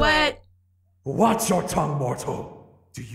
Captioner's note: game audio